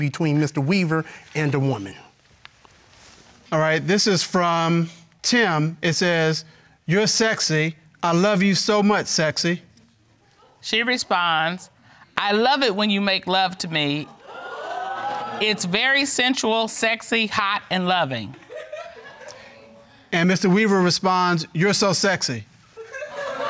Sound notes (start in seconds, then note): 14.1 audience exclaiming